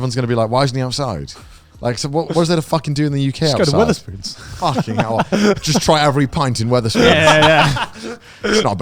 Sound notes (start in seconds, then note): 4.4 laughs